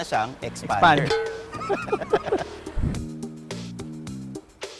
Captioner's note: both laughing